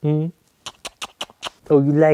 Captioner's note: kissing